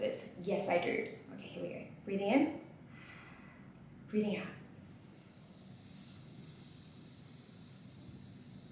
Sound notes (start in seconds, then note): 4.8 ss sound